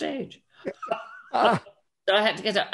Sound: laughs

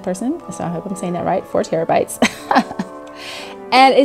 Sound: chuckles

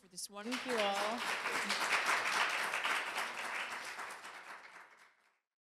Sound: applause

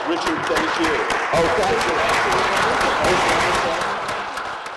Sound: applause

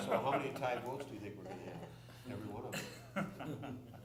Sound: laughter

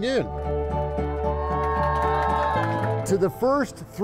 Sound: people cheering

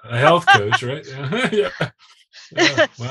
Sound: chuckling

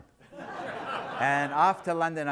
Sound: audience laughs

